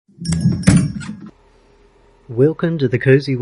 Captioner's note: shop door opens, making the bell above it jingle